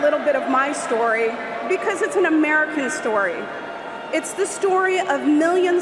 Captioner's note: cheers and applause